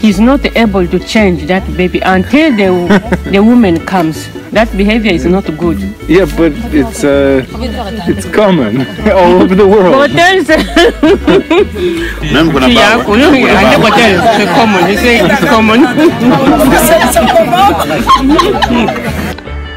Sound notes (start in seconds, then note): 10.4 laughter from all women